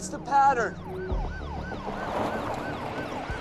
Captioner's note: siren wailing